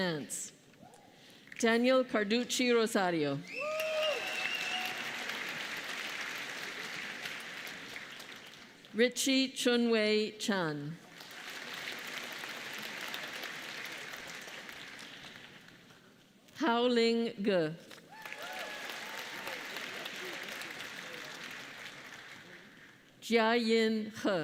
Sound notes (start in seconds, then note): 11.0 applause